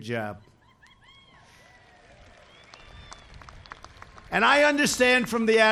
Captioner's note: applause